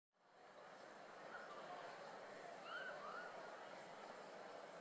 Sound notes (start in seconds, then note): 0.2 people chattering